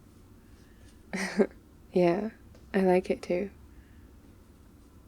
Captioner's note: laughs